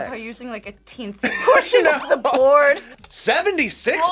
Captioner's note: React laughs